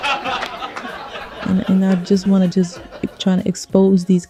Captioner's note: laughter